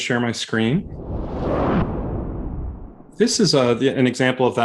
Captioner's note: whooshing sound